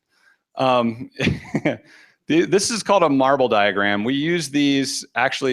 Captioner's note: chuckles